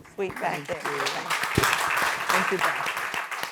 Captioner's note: audience applauding